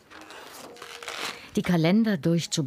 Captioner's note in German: Rascheln